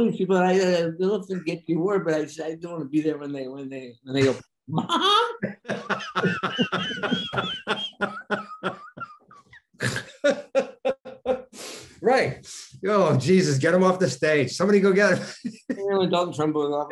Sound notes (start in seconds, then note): 5.4 Denis snorting; 5.4 Denis laughing; 15.0 laughing